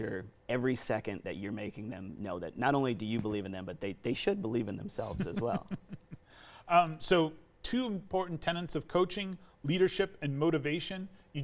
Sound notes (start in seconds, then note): 5.0 chuckles